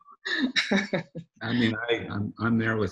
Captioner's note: laughs